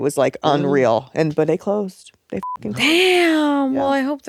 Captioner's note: beep